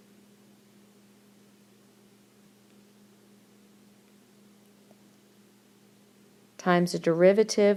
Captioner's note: silence